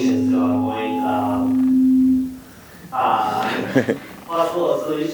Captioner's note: mic gives feedback